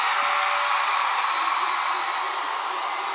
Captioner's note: applause